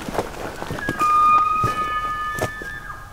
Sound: elk bugling

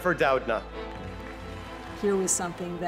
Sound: audience clapping

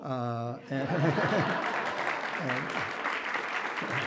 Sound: audience applauds

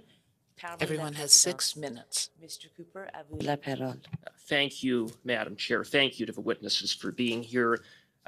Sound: speaking French

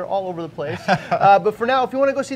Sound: laughing

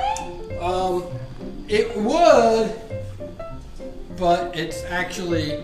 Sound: voiceover

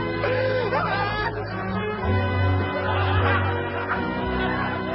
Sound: audience laughing

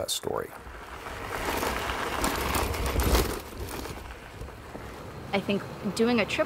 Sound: bicycles on dirt road

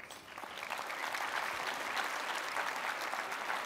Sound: applause

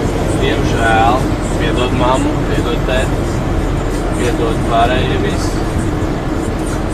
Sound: laughing

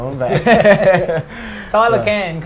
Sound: laughs

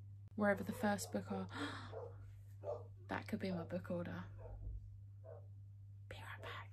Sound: dogs barking

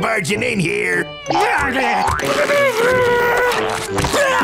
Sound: muffled straining; grunting

